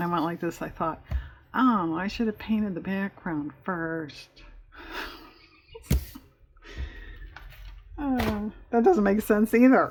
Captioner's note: laughs